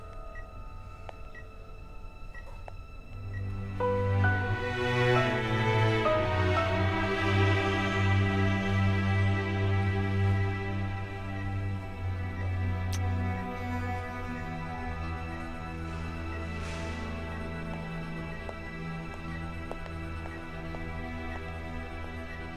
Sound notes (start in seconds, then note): 0.0 Beeping sound; 12.7 Kissing sound; 16.3 Footsteps